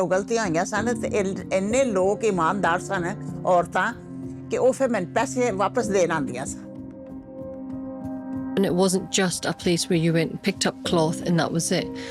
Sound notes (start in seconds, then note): 8.2 in English